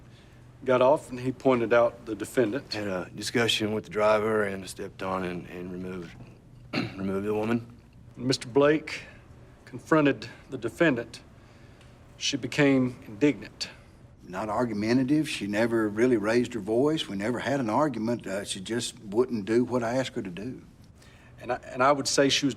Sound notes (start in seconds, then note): 6.6 clears throat